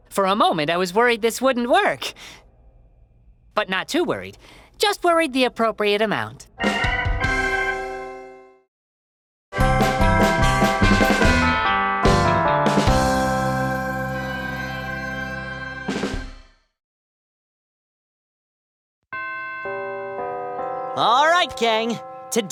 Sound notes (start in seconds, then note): 19.2 bell chimes